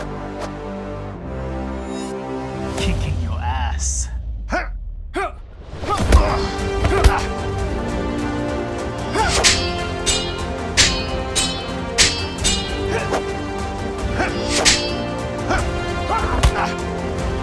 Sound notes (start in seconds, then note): 0.1 dramatic music; 5.8 dramatic music; 9.1 swords clanking; 13.0 dramatic music; 14.1 swords clanking; 17.2 dramatic music